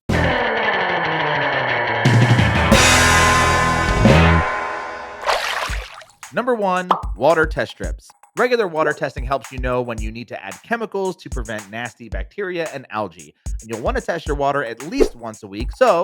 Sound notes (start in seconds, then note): 0.1 tense upbeat music; 2.1 drums beating; 5.2 water splashing